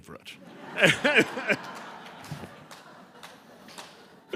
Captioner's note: laughter